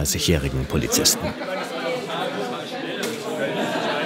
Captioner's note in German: Stimmengewirr, Lachen